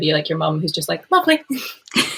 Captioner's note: laughing